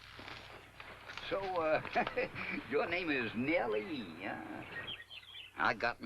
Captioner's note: chuckles